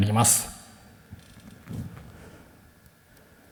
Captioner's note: silence